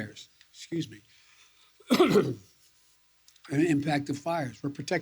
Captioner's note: coughs